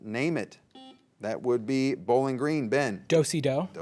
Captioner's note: buzzer beeps